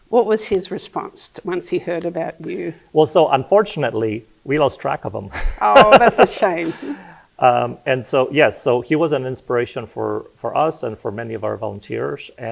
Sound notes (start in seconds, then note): 5.3 laughing